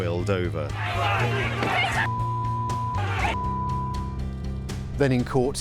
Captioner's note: shouting and screaming